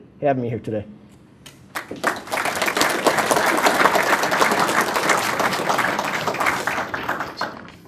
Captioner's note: applause